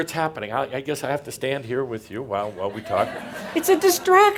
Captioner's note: more laughter